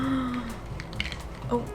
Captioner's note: gasp